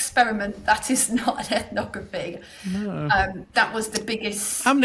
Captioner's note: chuckling